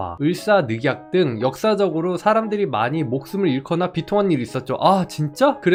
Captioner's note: voiceover